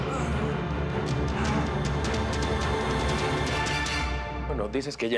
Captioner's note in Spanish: quejidos